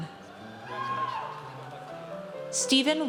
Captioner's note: audience cheers